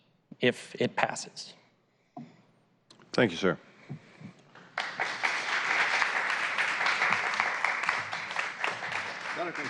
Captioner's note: applause